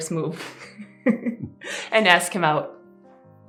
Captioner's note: laughter